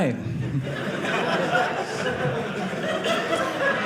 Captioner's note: audience laughing